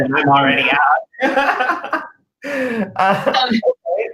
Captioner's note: laughter